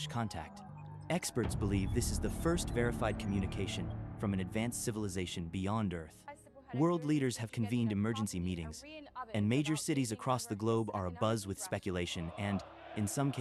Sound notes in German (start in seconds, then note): 6.2 geschäftige Nachrichtenredaktion